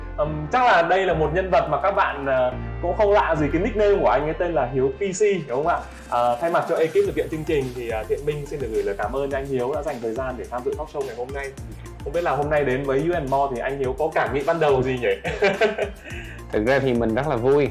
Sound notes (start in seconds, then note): 15.3 laugh